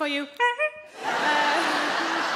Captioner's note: Sarah imitates horn honking; audience laughing